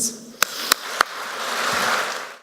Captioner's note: speaker and Audience members clapping